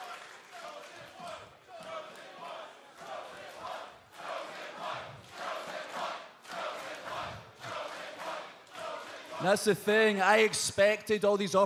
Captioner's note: fans chanting